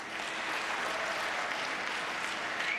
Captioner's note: applause